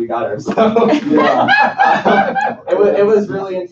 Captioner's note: laughter